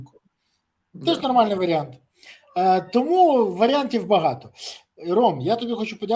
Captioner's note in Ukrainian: сопіння